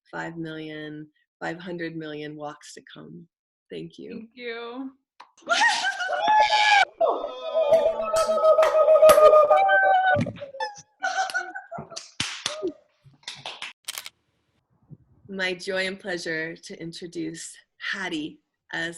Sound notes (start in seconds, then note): 5.4 attendees cheering; 13.8 camera clicking